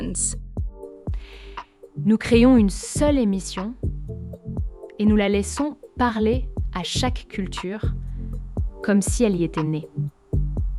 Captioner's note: French